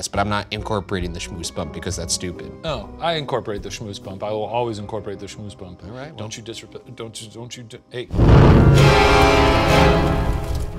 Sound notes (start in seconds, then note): 6.8 stammering; 8.1 dramatic music